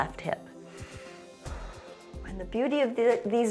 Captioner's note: inhales and exhales